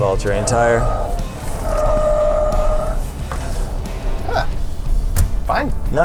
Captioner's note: tires screeching